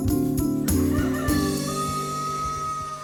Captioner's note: rooster crowing